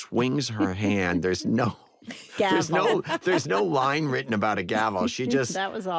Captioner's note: laughter